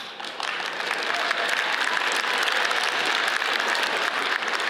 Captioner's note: audience applauds